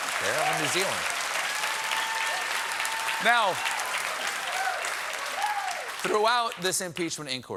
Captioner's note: cheers and applause